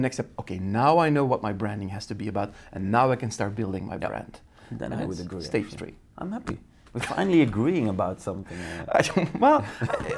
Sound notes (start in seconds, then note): 7.2 laughing; 9.6 laughs